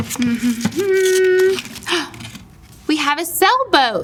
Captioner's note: woman humming